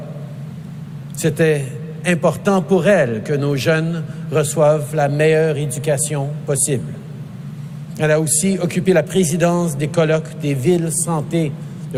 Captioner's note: speaking in french